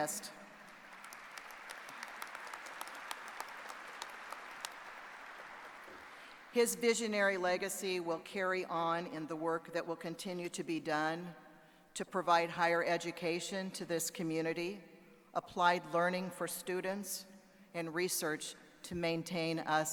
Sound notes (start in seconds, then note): 4.0 applause